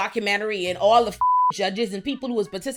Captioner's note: beep